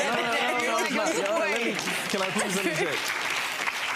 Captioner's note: clapping and laughter